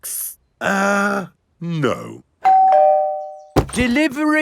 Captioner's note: doorbell rings